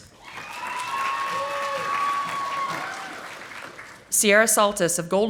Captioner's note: audience applauding